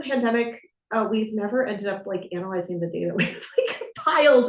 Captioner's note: chuckles